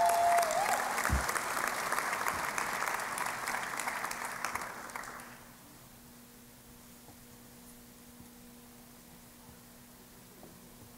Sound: cheering and Applause

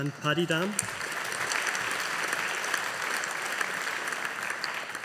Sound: audience applauding

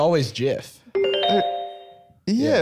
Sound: pleasant chime

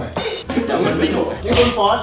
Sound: laughs

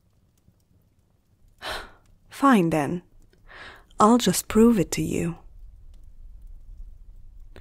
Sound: sigh

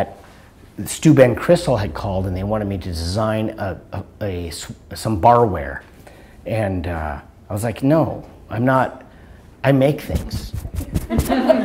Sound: laughter

